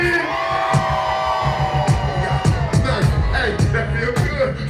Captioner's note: audience screaming